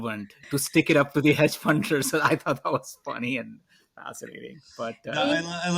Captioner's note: laughs